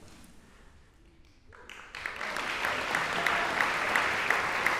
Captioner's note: applause